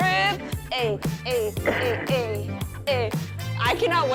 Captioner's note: laughs